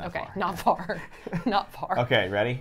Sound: laughs

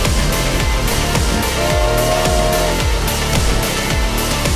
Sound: steam whistle

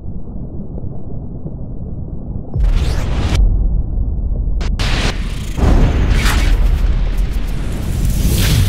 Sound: thunderstorm and lightning

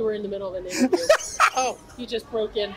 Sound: laughs

